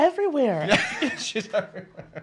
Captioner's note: laughs